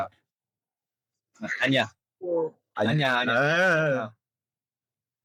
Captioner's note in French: en coréen